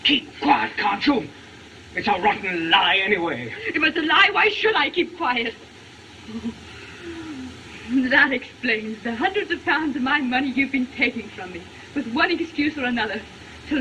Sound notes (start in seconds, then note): 6.4 shudders